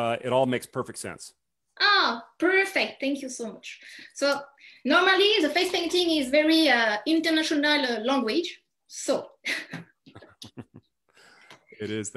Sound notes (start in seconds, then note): 10.0 chuckles